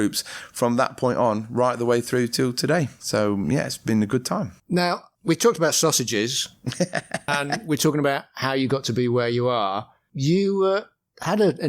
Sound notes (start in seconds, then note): 6.6 laughter